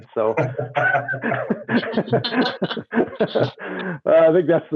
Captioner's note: laughs